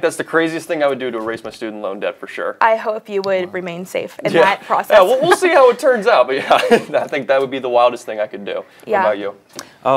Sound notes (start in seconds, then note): 6.4 chuckles